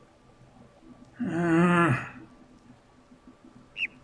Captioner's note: grumbles; overlapping birds chirping, ˥ ˥ ˩ ˧ ˩